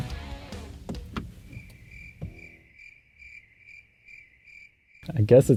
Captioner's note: crickets chirping